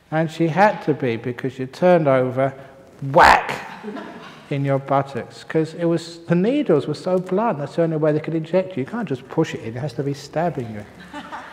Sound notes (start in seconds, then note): 3.6 laughter